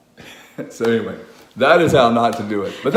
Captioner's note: laughs